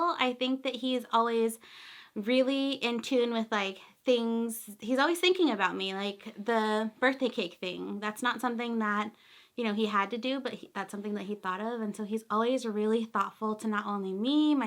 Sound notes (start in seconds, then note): none